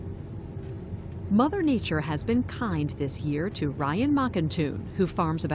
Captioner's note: voice-over